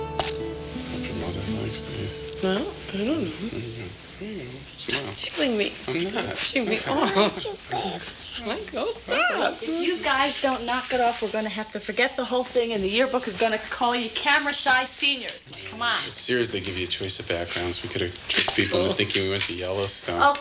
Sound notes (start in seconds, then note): 4.6 Michael mutters